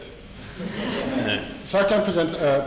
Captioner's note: audience laughing